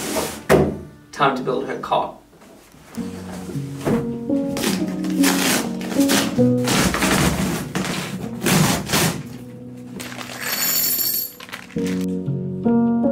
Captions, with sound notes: Time to build her cot. (box ripping) (calm music)